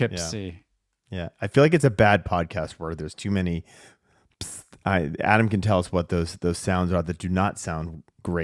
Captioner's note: pssst